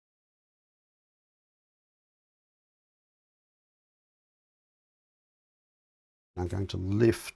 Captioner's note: silence